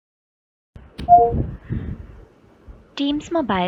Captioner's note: Teams mobile dings